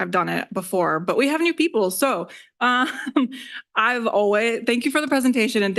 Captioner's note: laughs